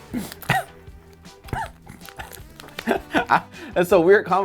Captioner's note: coughing, then laughing